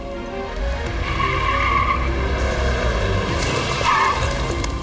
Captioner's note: tires screeching